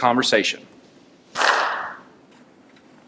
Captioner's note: clap